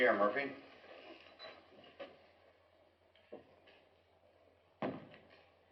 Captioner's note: silence